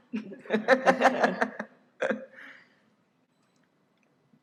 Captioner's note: laughs